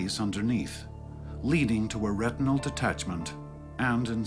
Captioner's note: none